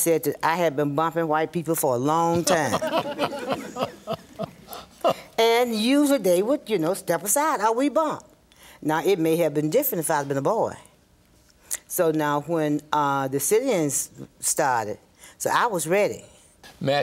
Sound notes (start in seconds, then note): 2.4 group laughs